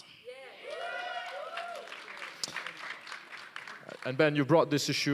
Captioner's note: applause